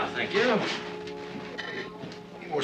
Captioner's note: chatter; dishes rattling